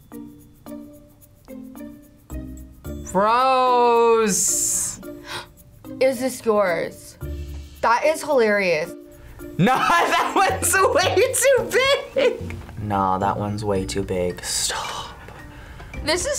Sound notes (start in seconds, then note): 5.1 gasps; 12.1 laughs; 15.0 whispers